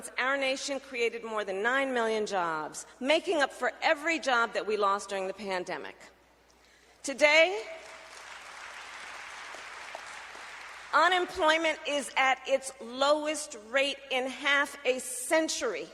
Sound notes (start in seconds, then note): 7.7 applause